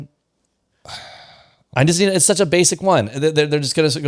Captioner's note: sighs